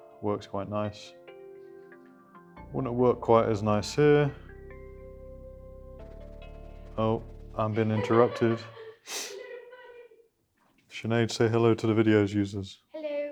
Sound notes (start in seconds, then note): 7.6 laughter